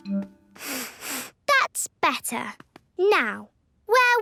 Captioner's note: sniffs